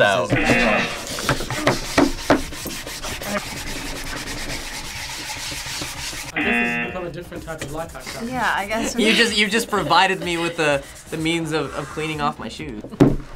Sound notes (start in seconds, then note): 0.3 buzzer rings; 0.3 toothbrushes scraping; 6.3 buzzer rings